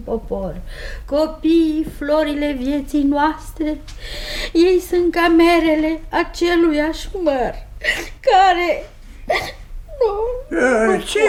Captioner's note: starts to cry